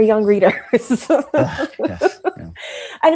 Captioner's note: laughs